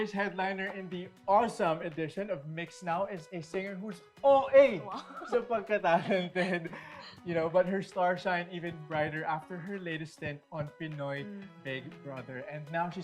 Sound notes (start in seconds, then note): 4.9 chuckles